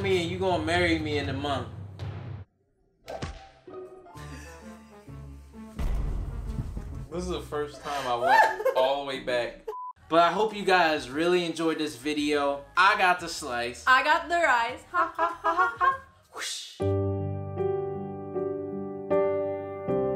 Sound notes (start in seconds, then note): 2.8 slapping; 4.5 laughing; 15.0 laughing; 16.8 sentimental music